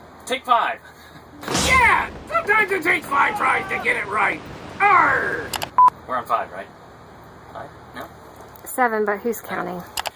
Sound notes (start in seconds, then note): 1.4 boom; 5.5 click and beep